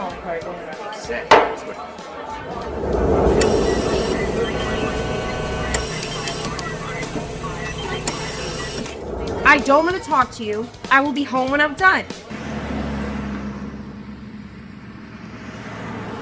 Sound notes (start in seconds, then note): 1.3 bottle slams; 2.8 machine whirring loudly; 3.0 monitors beeping; 7.2 hospital cacophony; 12.5 engines rumbling